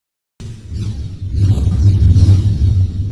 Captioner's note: whooshing